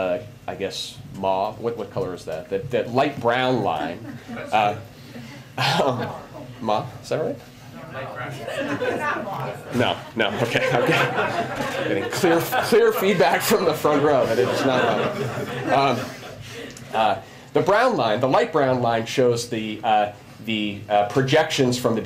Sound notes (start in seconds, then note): 16.9 laughter